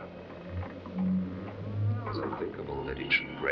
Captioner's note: bridge creaking; wind blowing